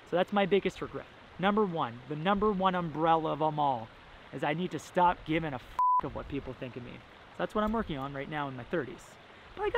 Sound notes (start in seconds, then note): 5.8 beep